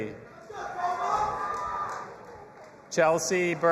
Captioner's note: audience applauding and cheering